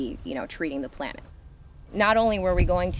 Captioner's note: none